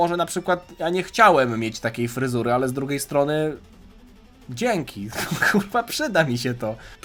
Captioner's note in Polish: śmiech